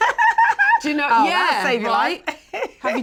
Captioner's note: laughs; all chattering